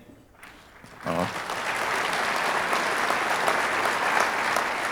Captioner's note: audience applauding